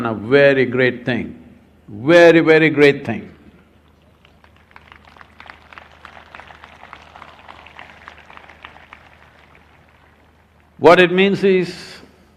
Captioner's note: applause